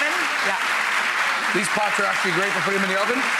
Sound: applause

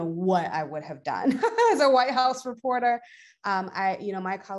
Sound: chuckles

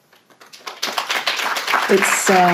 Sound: audience applauds

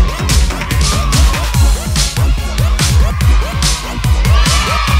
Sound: crowd cheering

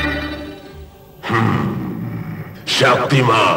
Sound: grunts

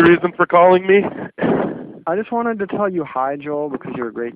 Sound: laughs

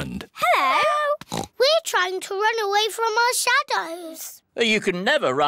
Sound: oinks

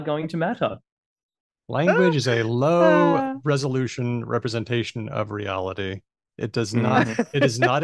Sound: laughs; laughs

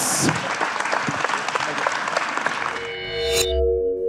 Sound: applause

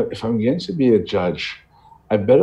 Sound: none

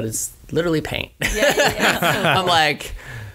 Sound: laughs

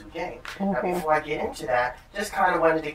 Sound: sounds of agreement

